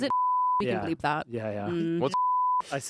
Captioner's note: beep; beep